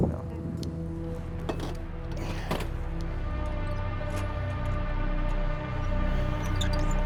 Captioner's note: eerie music; gentle music continues; metal squeaking